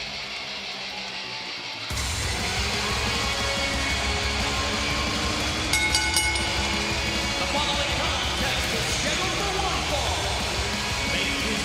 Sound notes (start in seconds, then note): 5.6 bell ringing